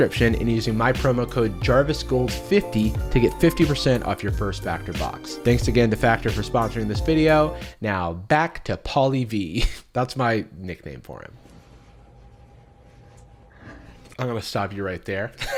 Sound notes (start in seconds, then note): 11.6 white noise